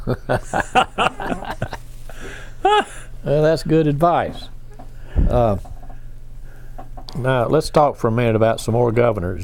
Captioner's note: laughs